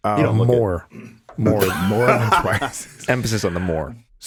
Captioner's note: laughs; clears throat